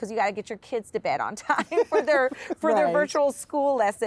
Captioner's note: laughs